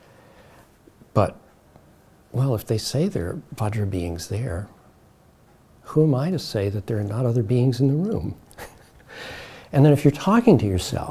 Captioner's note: chuckles